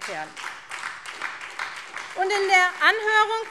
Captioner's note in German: Beifall SPD